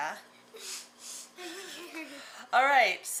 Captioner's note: giggling